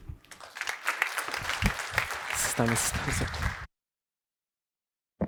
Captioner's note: applause